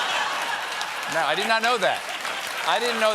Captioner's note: laughter